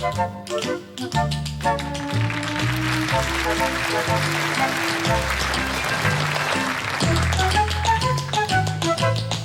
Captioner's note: tap dancing; applause